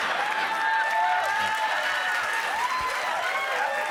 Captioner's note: cheers and applause